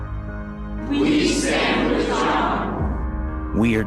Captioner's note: crowd